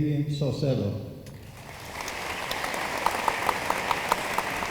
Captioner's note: room applauds